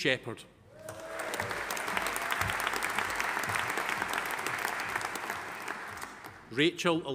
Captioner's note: audience cheering; audience applauding